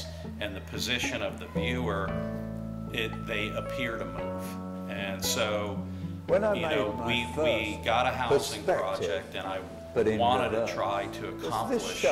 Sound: video playing over speaker

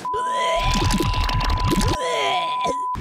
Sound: vomiting

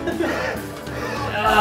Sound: giggle; panting noises

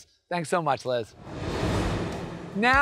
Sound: graphics whooshing

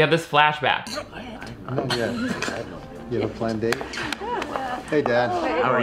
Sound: people conversing

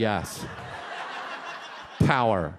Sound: audience laughs

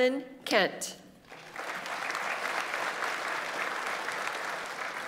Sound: audience applauds

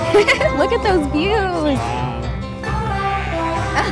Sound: laughs; gentle music

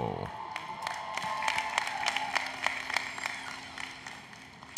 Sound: applause, Cheering

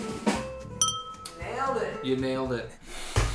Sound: drum Roll; ding

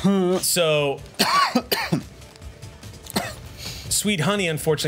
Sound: coughs

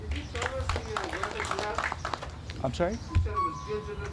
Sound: applause

